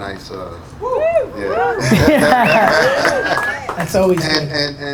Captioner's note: audience cheering